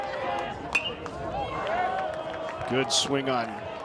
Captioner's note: bat tings